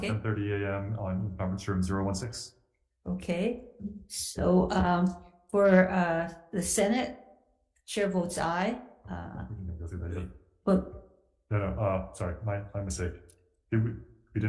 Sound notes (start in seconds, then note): 9.3 speaks faintly